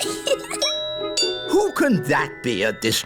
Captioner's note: giggles; doorbell rings